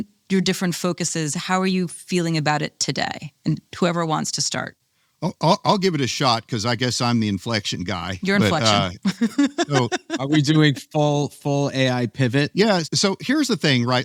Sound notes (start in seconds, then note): 9.1 laughs